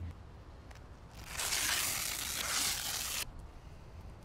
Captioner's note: velcro ripping apart